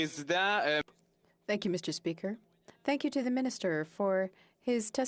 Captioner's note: speaking French